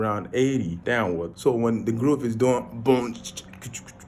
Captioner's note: beatboxing